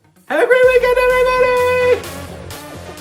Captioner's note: high pitch